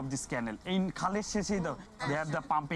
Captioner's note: speaking Bengali